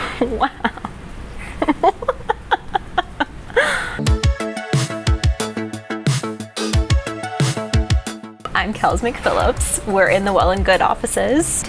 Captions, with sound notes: - Wow. (laughing) (upbeat music) I'm Kells McPhillips, we're in the Well+Good offices.